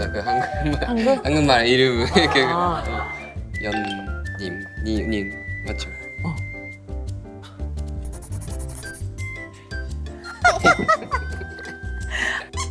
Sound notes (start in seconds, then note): 8.0 scribbling